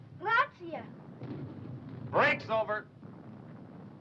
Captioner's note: boy speaking foreign language